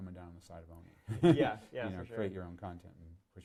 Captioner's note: laughs